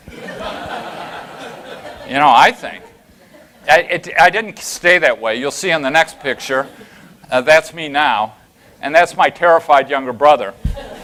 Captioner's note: laughter